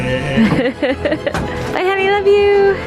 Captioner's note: laughing